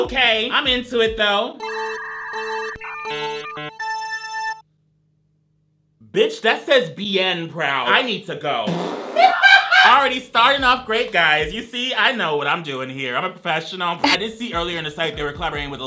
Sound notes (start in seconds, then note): 1.6 counter beeping; 9.2 cackling